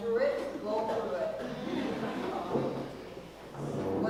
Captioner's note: laugh